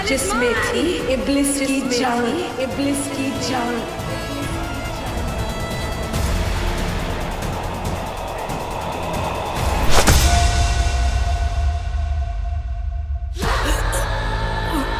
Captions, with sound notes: Iblis' life was captured in it. [dramatic music] [gasping for air]